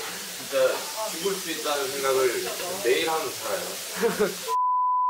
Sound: giggles

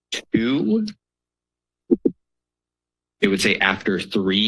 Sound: pause

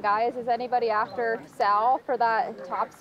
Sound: players cheering

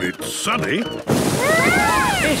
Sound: shouting

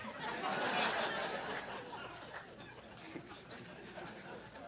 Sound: crowd laughing

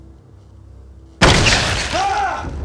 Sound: boom

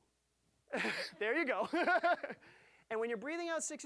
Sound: laughing

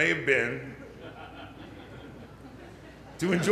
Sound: little laughter

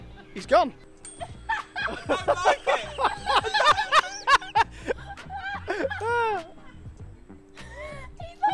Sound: laughing

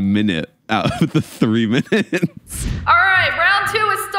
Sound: laughs

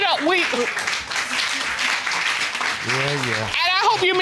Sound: audience applauds

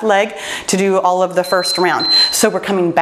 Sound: timer beeps

